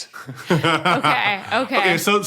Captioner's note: guffaws